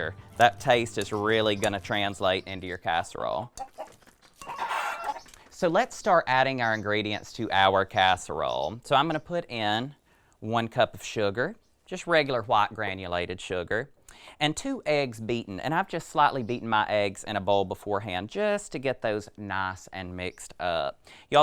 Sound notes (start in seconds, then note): 3.4 chickens clucking